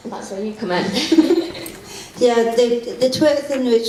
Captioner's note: both laugh